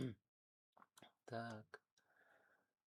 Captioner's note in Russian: откашливается